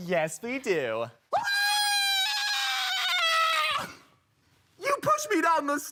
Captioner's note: screaming